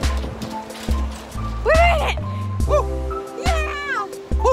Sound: whooping

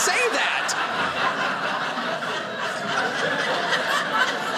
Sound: audience laughing

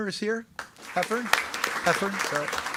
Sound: attendees clapping

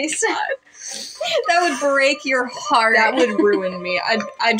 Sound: laugh; chuckle

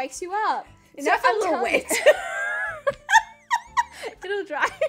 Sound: laughing

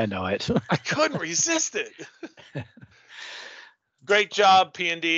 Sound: laughs

